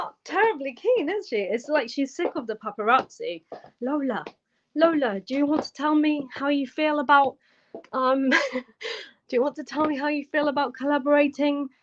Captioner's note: laughter